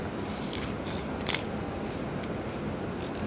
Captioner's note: crunching